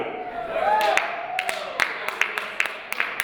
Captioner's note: cheering